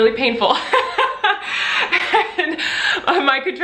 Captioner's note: Colleen laughs